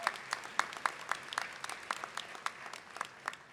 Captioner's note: applause